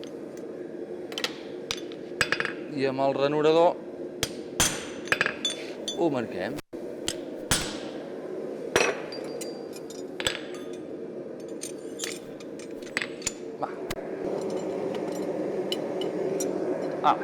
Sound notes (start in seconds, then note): 4.2 sharp metallic hammering; 7.0 sharp metallic hammering; 14.7 furnace blasting